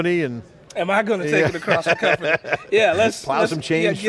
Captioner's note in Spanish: se ríe